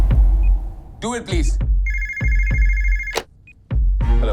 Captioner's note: phone ringing